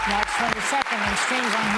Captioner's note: applause